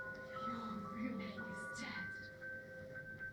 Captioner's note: whispered